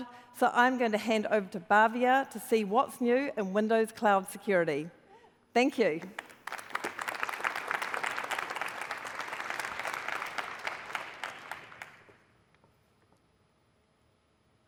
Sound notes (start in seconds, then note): 5.9 applause